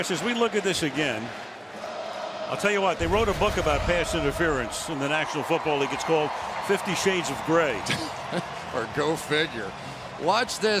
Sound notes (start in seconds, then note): 8.3 cheering